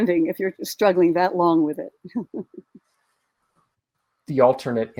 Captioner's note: chuckles